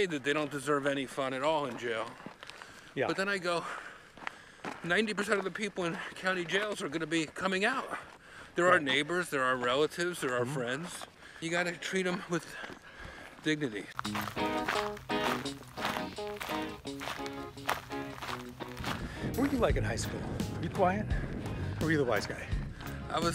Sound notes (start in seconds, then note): 14.0 upbeat music; 14.2 gravel crunching under foot